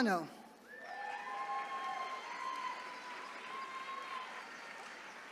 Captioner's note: attendees cheering